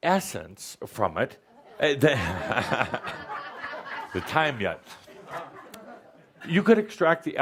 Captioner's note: laughter as he picks up the bottle of tequila